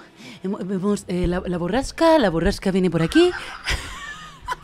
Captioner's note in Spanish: voz de reportera